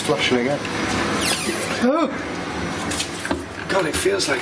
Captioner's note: creaking; surprised yell